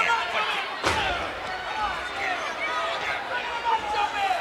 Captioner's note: fist thuds